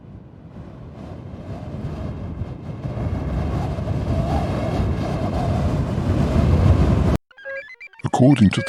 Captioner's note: sound of air rushing past